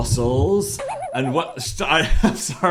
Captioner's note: spring bouncing